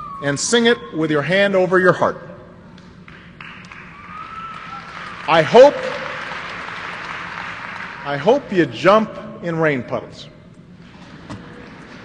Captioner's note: applause